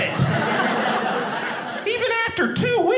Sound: audience laughing

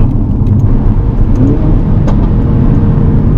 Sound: vrooooommmmmmmmm

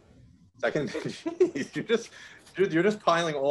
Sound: laughs

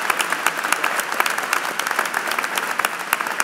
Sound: applause

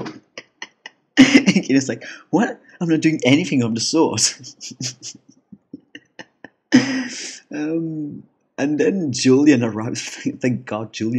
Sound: laugh; laugh

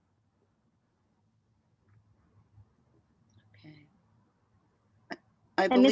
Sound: audio cut out

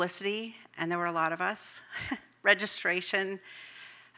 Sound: chuckles

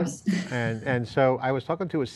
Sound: laughs

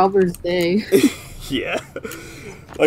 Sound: laughs

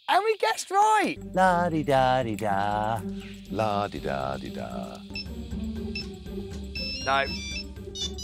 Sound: hums ringtone; ringtone plays

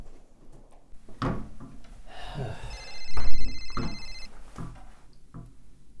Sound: phone ringing; door closing

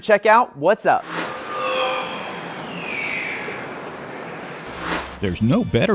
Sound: sound Effects

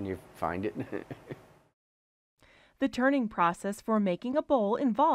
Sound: laughing

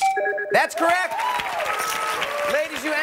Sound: chimes

